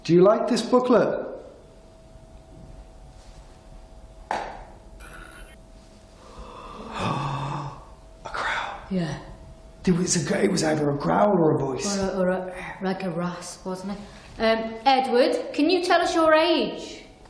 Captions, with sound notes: Do you like this booklet? (buzzing) (gasps) A growl. - Yeah. - It was either a growl or a voice. - Or like a rasp, wasn't it? Edward, can you tell us your age?